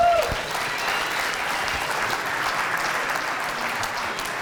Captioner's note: audience applauds